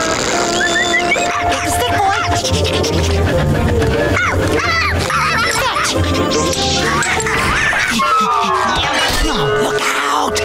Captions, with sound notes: [whistling] Here's a stick boy! [panting] [barking] Fetch! Look out!